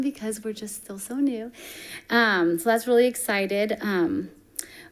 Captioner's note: none